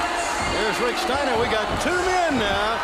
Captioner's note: crowd chatter